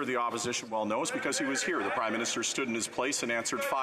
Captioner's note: yelling